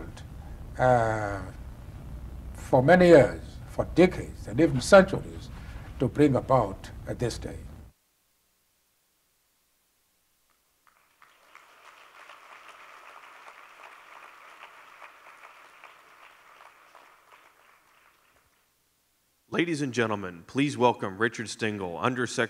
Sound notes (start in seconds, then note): 10.8 applause